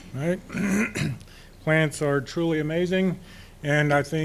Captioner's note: clears throat